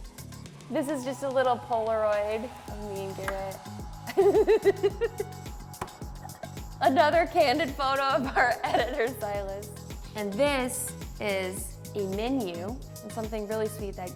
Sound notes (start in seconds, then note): 4.2 laughing